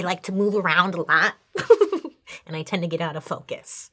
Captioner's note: laughs